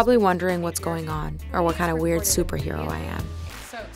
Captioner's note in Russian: Голос за кадром